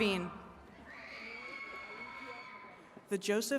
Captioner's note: attendees cheering